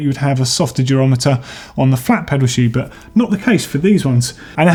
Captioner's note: none